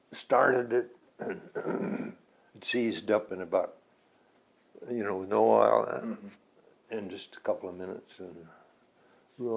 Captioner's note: clears throat